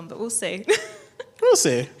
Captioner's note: chuckles